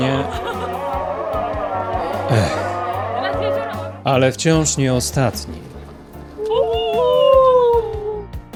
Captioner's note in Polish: Aplauz